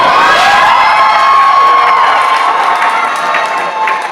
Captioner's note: cheers